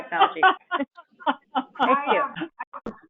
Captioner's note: laughing